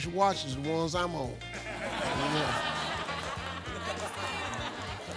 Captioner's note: audience laughs